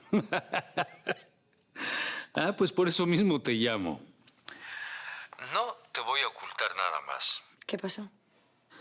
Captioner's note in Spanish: Risas